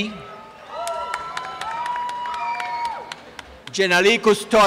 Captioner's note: applause and cheering